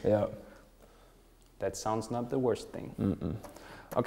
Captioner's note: schmunzelt